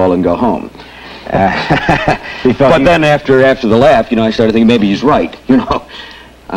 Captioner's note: laughs